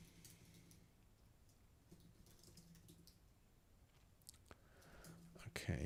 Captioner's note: silence